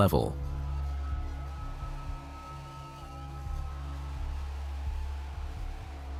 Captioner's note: crowd cheers